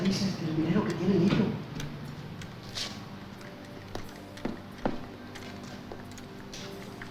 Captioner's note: speaking in foreign language